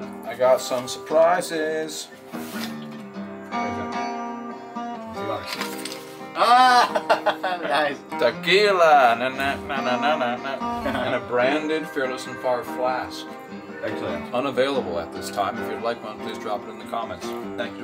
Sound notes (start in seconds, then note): 2.7 country music; 6.3 laughs